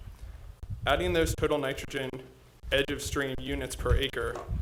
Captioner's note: audio crackling